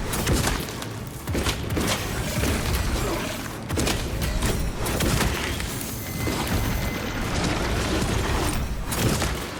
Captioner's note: gunshots